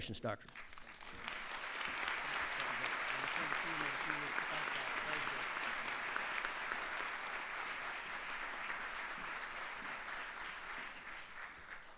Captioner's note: applause